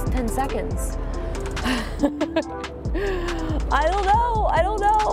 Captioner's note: laughs